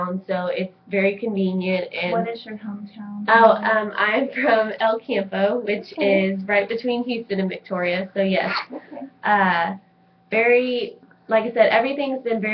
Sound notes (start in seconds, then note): 5.6 laughs